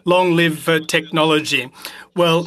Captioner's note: speaking French